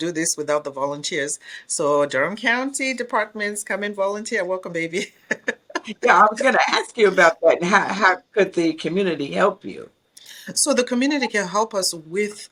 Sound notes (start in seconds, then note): 5.0 laughs